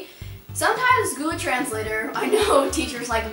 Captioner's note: chuckles